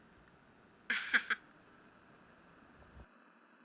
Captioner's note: laughs